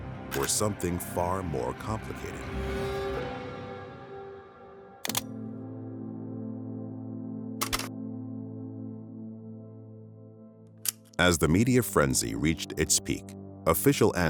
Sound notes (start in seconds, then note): 5.0 camera shutters; 5.0 dramatic music